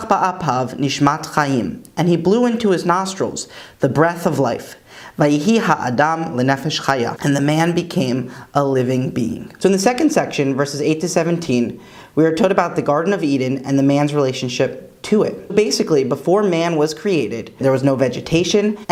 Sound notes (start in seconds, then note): 4.6 Hebrew